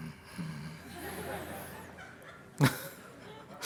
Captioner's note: laughter